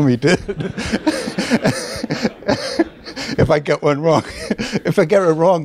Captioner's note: laughs